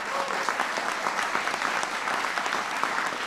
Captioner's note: applause